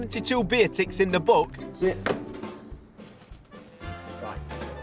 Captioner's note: book snapping; jazz music